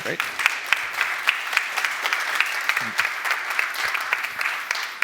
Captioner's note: applause